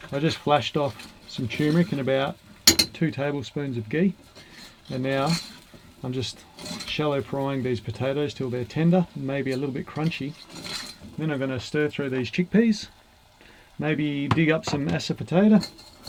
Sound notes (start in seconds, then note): none